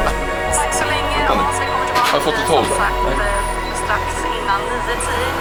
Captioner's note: reporter speaks Swedish